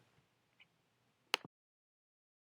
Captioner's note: clicking noise